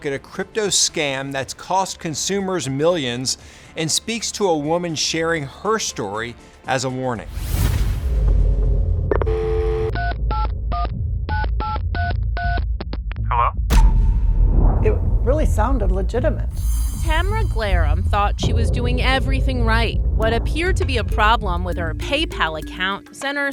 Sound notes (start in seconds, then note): 7.3 logo whooshes; 9.1 phone beeping; 13.6 voiceover